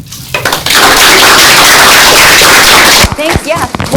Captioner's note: audience applauds